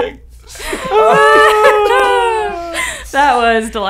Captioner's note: all laughing